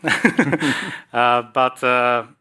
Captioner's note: laughs